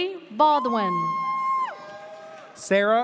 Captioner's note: audience cheers